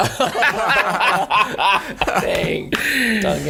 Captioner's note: all laughing